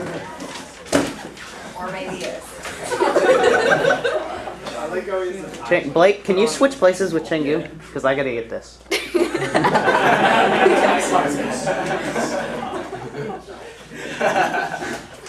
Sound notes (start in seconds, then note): 5.3 laughter; 12.8 more laughter